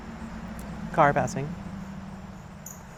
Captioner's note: car passing